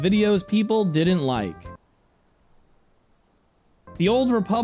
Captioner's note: crickets noises